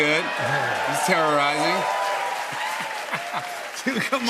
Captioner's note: cheers and applause